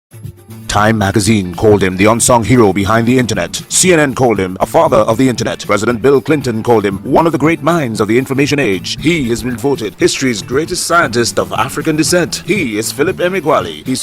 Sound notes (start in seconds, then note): 0.0 radio Announcer